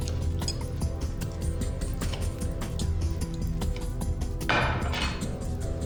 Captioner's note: tense music; cutlery clattering